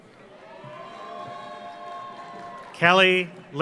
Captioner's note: audience applauds; audience cheers